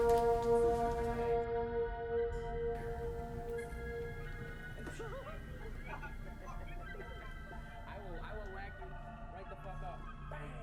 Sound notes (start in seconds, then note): 0.0 ominous electronic music; 5.6 people laughing